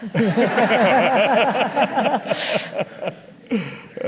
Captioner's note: audience laughing